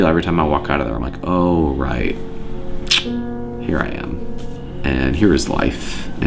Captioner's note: smacking